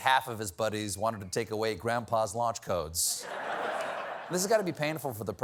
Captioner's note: laughter